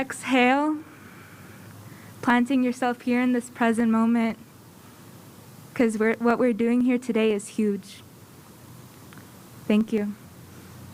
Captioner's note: inhaling; exhaling